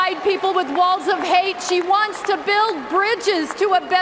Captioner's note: cheers and applause